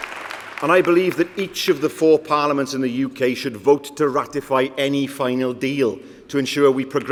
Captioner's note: applause